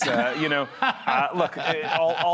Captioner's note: laughter